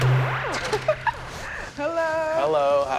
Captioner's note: woman laughs